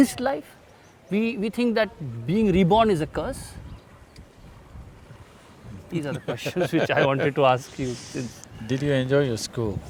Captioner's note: laughs